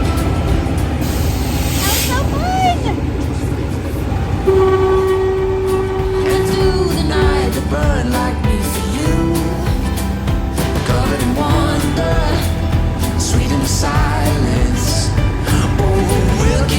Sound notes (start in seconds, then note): 4.2 train horn; 8.6 upbeat music